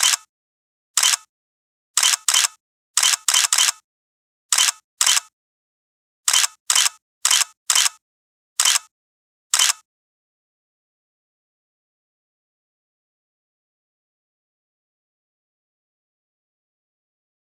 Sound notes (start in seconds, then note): 6.1 photos Clicking